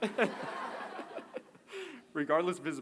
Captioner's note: laughter